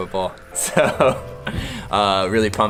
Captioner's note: laughs